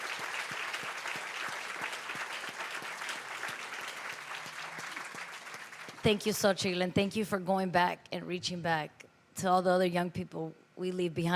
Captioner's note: applause